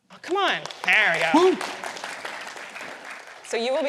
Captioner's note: applause